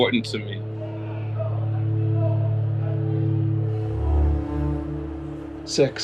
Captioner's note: soft cello music; people chattering distantly